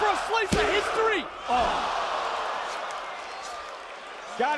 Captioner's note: audience cheering